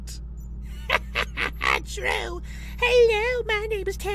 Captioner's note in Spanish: risas